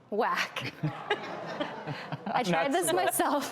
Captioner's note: audience groans